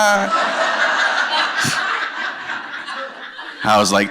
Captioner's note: laughter